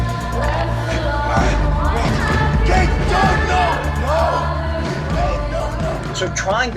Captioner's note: pleading